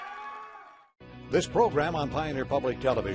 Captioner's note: uplifting electronic music; voiceover